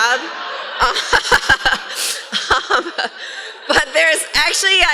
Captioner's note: laughter